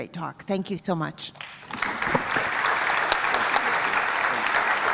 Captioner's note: applause